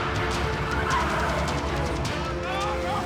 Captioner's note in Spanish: chirrido de gomas